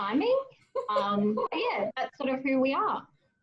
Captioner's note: laughs